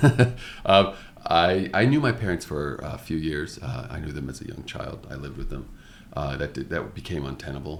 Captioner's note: chuckles